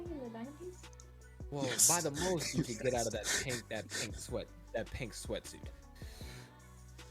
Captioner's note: laughs